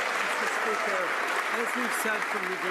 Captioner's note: some Applause